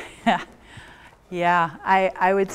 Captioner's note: chuckles